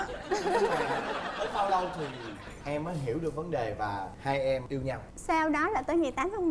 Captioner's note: laughing